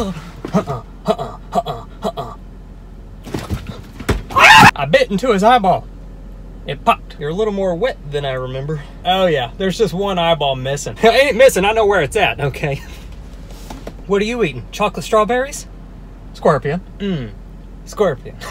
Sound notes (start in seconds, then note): 4.3 screams